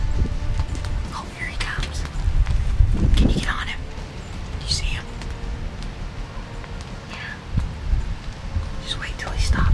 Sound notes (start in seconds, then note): 2.2 whispering